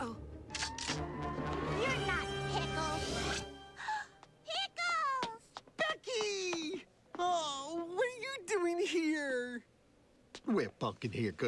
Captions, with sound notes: DUCK! LOOK OUT! UH-OH. [COCKS GUN] YOU'RE NOT PICKLES. [GASPS] PICKLES! BECKY! OH. WHAT ARE YOU DOING HERE?